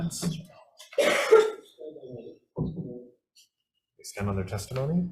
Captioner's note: attendee coughs